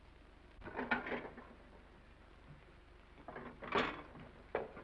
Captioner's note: plates clattering